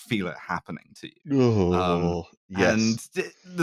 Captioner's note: sound of discomfort